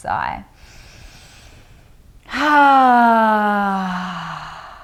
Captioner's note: sighing deeply